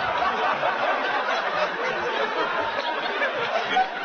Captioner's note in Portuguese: risos continuam